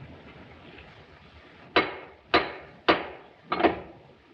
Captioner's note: knocking in rhythm